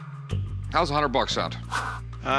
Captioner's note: swish